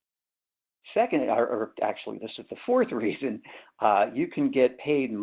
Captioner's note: laughs